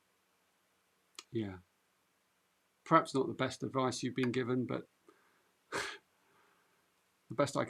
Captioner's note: chuckles